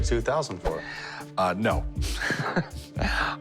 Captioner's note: chuckles